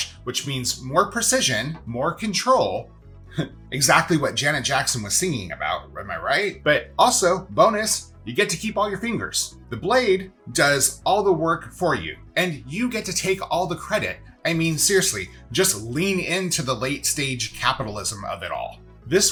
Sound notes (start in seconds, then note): 3.4 laughs